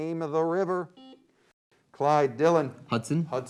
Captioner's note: beep